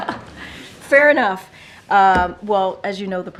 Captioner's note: laughs